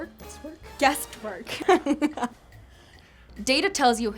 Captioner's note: laughs